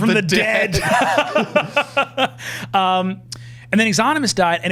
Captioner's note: laughing